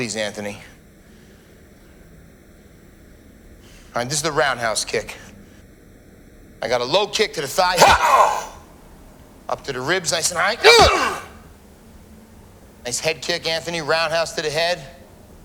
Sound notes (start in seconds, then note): 7.7 exclaims